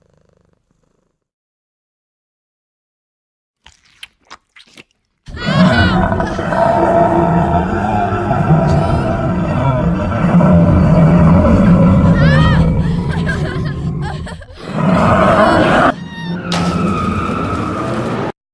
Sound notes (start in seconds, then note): 5.3 lady screams; 12.0 woman screams; 16.4 car sped off